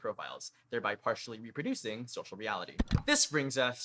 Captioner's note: click